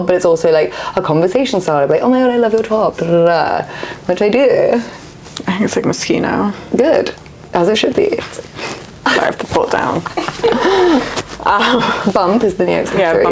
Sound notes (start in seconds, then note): 9.8 laughs